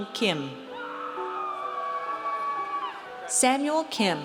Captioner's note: audience cheers